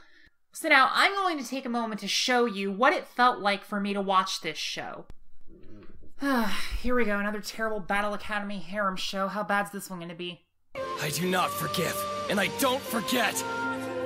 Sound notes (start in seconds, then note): 6.1 sigh; 10.7 epic music